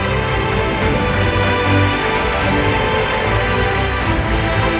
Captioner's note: the audience applauds